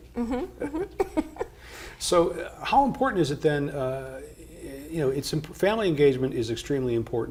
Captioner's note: laughs